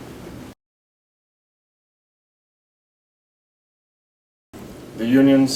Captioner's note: silence